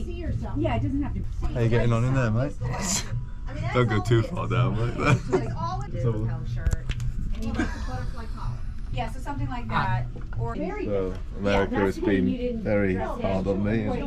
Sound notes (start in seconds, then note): 2.8 chuckles; 7.4 laughs